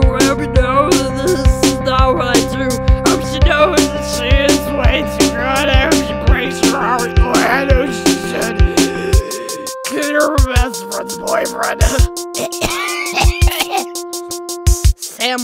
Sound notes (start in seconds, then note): 8.4 inhale; 12.3 horrible coughing